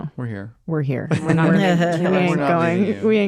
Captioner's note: laughter